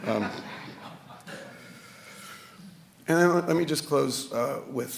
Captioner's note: audience laughing